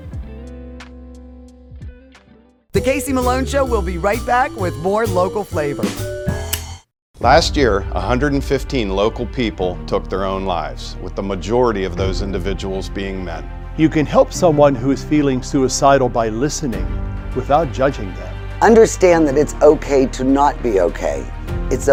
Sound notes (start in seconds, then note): 0.3 upbeat music; 6.5 speaker extinguishing cigarette lighter by closing cap